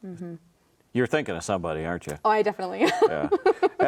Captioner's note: laughing